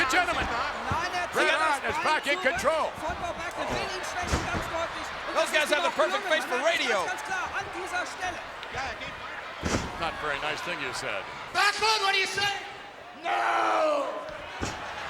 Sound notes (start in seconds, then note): 3.4 speaking German; 7.9 speaking German